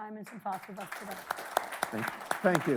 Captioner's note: attendees clapping